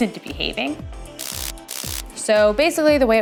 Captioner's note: electric buzzing